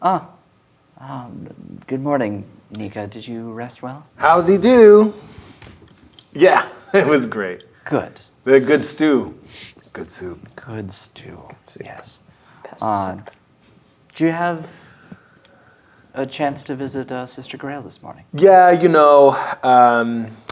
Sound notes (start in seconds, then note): 9.5 quietly; 11.6 quietly